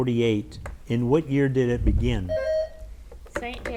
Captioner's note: bell dings